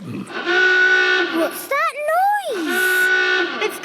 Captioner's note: horn honking; honking